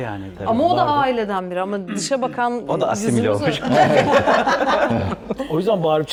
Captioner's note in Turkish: kahkaha